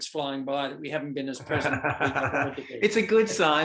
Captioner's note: laughter drowns out speaker